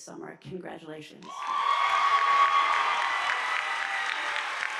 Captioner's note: audience applauding